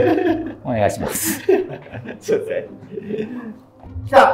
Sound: laughing

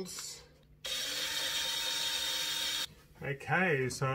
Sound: machine drilling

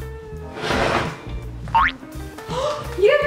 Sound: boing

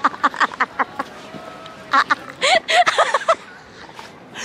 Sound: hysterical laughs

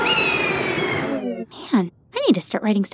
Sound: birds chirping

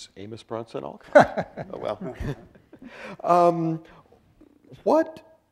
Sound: laughs

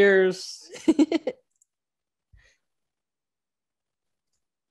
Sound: laughs

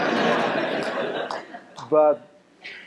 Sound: laughter

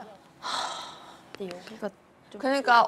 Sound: sighing

